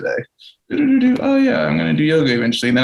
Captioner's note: owl vocalizes